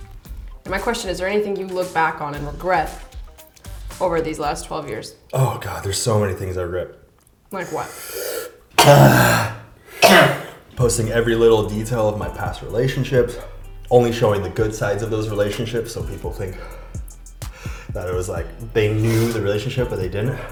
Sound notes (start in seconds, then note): 7.8 sucks in hella air; 7.8 coughs violently